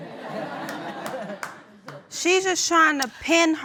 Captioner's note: audience laughing